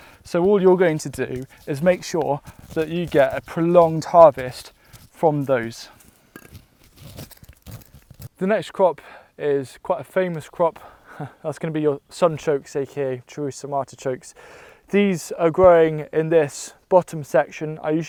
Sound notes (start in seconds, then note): 5.5 dirt crumbling